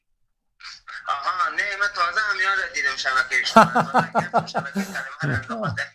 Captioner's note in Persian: خنده